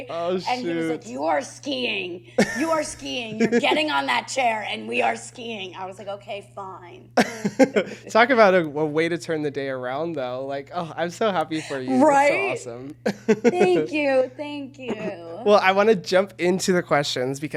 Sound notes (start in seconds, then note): 7.2 chuckles